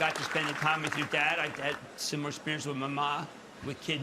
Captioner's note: applause